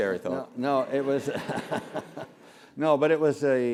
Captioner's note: laugh